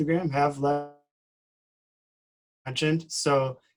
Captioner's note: distorted speaking